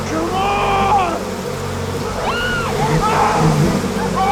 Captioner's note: cris fort